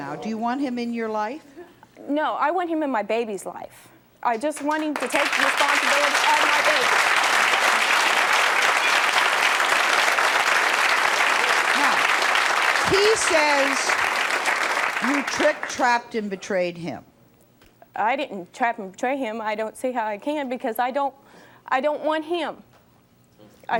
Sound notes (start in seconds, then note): 3.7 audience applauding